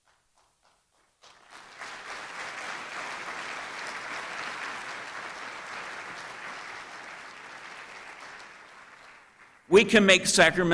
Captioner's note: applause